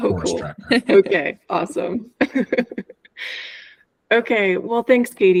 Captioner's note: laughing